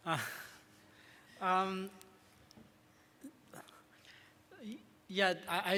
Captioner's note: laughs